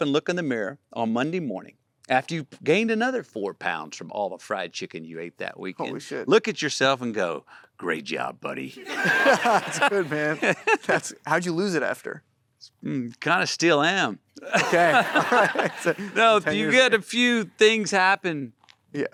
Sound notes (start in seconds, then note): 8.8 laughs; 8.8 Matthew laughs; 8.8 Matthew & audience laughing; 14.4 laughs; 14.4 Matthew & audience laughing